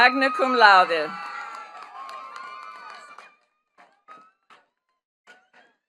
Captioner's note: attendees cheering and clapping